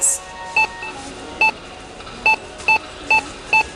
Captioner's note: beeping